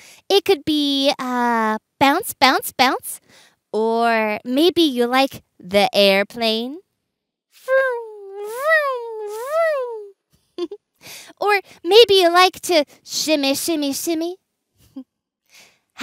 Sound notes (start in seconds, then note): 10.5 giggle